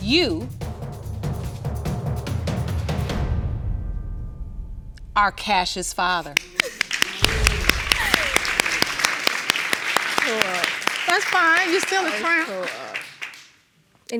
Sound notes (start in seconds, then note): 6.3 applause